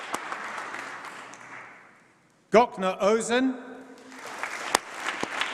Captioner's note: applause